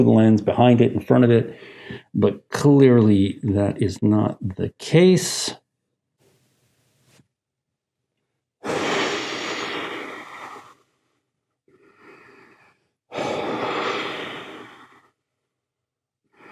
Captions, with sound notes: the lens, behind it, in front of it. But clearly, that is not the case. (heavy breathing)